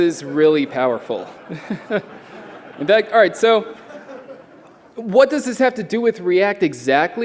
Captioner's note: laughter